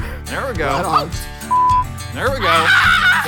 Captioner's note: laughs; beep